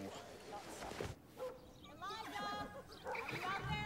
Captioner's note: dog barks